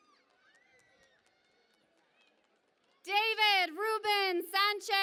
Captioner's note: cheering and Applause